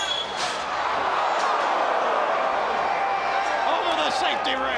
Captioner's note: crowd groaning